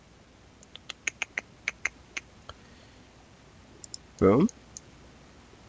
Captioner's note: clicks tongue